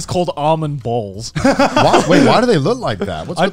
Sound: laughing

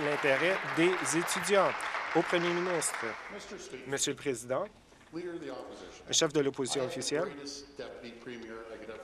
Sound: applause

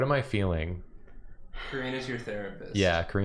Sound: sighs intensely

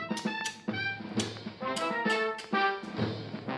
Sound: both clicking

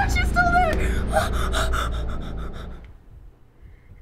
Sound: panicked breaths; faint heartbeats

